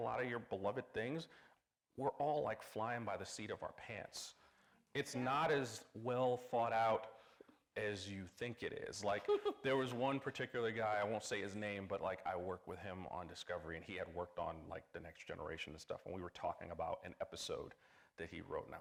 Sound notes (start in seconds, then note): 9.2 chuckling